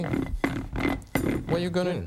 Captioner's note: roller clacking